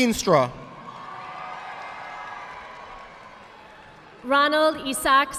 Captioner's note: audience applauding